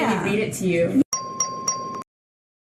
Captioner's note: ding, ding, ding